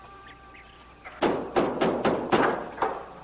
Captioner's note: pounding on door